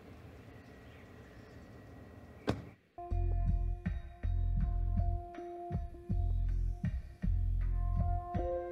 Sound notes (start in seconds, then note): 2.4 car door close